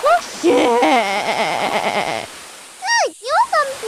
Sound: laughing

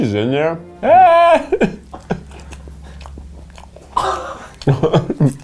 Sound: laughs

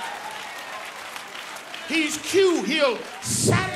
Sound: applause

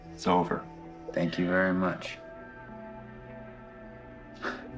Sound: laughs

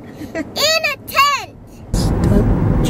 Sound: laughs

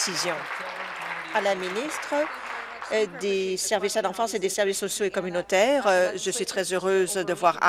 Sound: applause

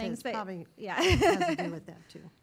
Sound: laughing

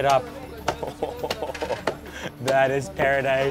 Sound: laughing

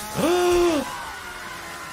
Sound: chainsaw buzzing; gasps

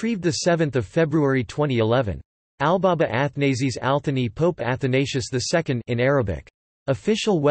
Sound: in Arabic

